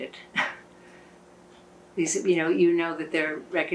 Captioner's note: laughing